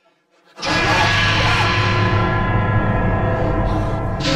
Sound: yelps

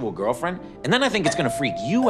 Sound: doorbell rings

